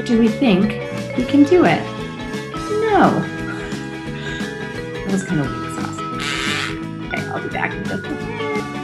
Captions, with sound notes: Do we think we can do it, no. That was kind of wuss-ass (buzzing sound). Okay, I'll be back in just a sec.